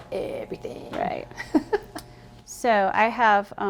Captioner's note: laughing